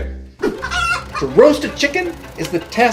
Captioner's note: rooster clucking